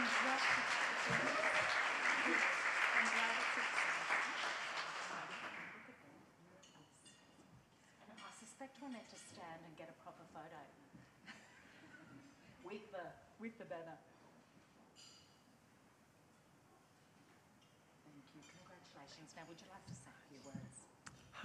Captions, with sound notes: Congratulations, I'm glad (faintly speaking). I suspect one have to stand and get a proper photo. (chuckles) With the banner. Thank you, congratulations. Now, would you like to say a few words?